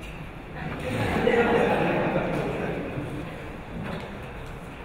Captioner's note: audience laughing